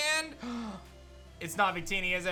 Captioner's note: gasps